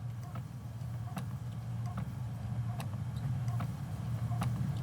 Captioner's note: clock ticks